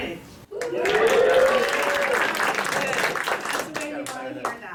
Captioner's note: cheering; applause